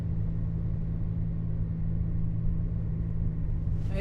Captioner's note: vehicle on the road